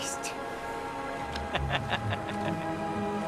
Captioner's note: laughs